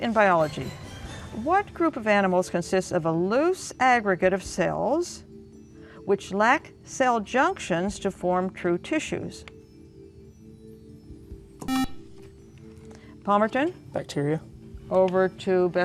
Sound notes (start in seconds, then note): 11.6 beep